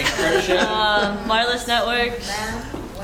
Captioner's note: laugh; shout